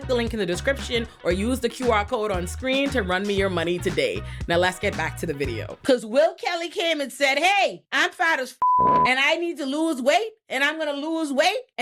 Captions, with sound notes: Cause Will Kelly came and said, "Hey, I'm fat as (beep) "and I need to lose weight and I'm gonna lose weight